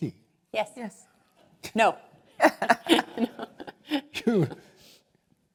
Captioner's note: laugh